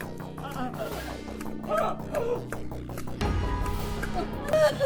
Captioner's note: people groaning